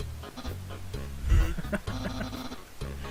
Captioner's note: chuckling